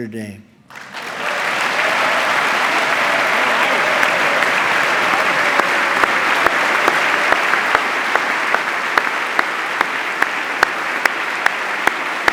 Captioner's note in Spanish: aplauso